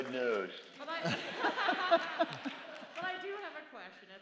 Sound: laughter

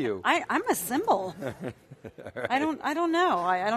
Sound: laughing

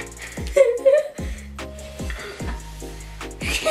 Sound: giggling

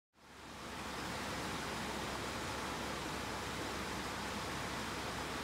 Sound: rushing water

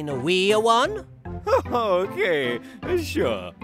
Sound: chuckling

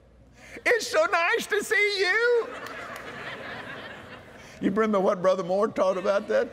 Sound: laughter

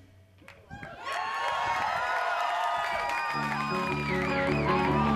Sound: audience cheering

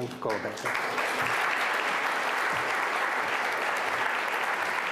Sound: audience applause

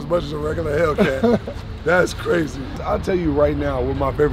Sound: laughing

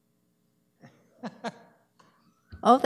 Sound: laughs

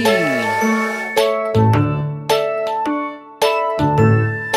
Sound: train toots

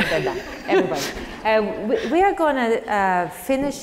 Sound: laugh

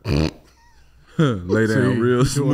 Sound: snorts

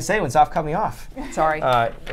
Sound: laughs

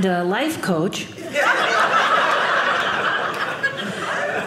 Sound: audience laughing

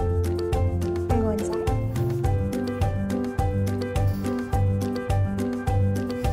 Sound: puppy sniffs

